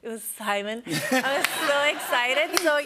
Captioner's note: laughter